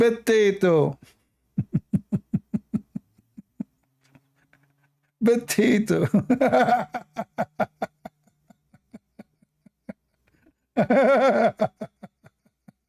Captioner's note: Ketawa